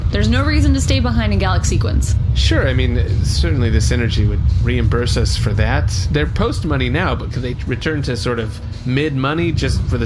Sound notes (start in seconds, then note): none